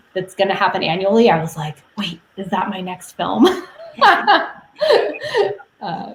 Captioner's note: laughs